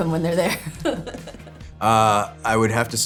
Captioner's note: laughs